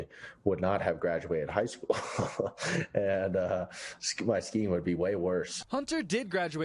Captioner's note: laughs